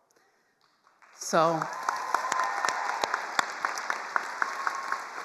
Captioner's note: attendees applauding